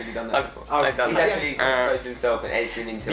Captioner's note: groans